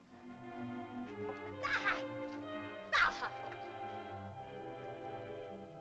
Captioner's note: woman cries out; ominous music